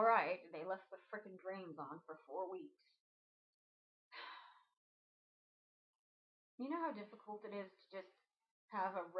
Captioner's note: sigh